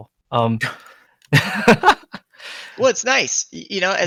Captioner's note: laughs